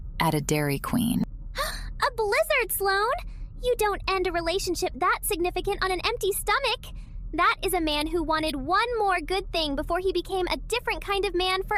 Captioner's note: gasp